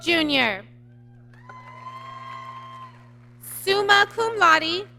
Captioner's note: applause